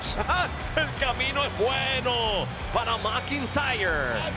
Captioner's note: laugh